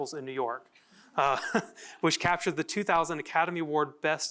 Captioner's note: laughter